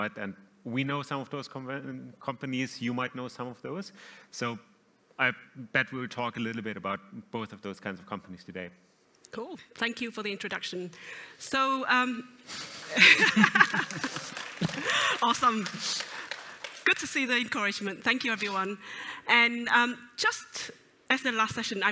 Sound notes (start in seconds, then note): 12.8 laughs; 13.0 applause